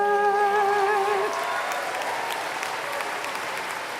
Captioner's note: applause